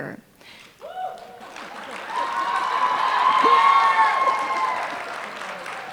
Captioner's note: applause